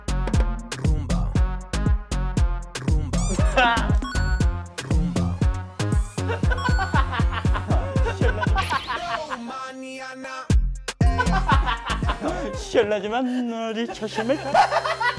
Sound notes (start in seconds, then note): 6.2 laughs muted.. but bursts out in laughter222